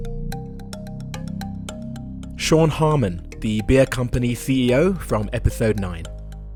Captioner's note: voiceover